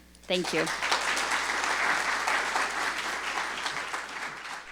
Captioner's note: audience applauding